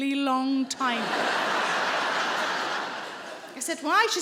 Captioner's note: audience laughing